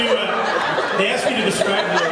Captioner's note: laughs